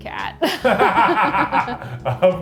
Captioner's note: both laugh